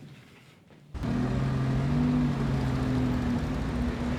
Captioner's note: engine Revs